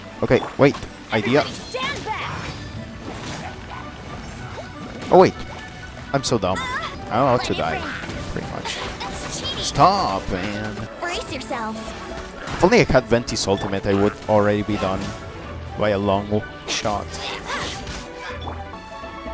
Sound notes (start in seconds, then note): 1.7 Hilichurl screams; 7.9 whispering; 17.3 Bennett and Abyss Mage fighting noises